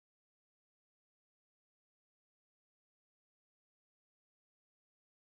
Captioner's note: none